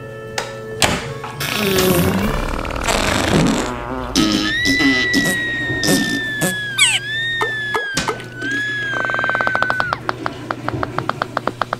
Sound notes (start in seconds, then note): 1.4 long, loud flatulence; 4.2 screaming; 9.0 sputtering, farting